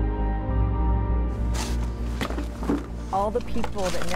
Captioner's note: shoveling dirt